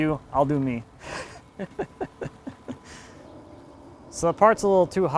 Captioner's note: laughing